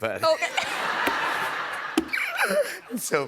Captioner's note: laughter